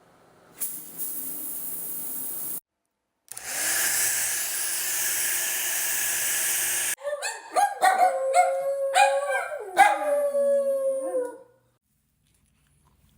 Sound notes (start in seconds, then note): 0.1 shower starting; 3.3 blow dryer; 7.0 dogs barking; 7.9 adorable missing dad howls; 11.2 cronch, cronch, cronch